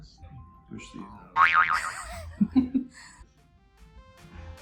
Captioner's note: laughing